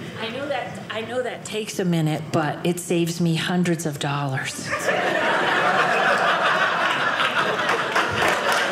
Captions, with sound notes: I know that takes a minute, but it saves me hundreds of dollars. (audience laughing)